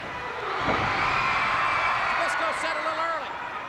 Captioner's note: crows cheers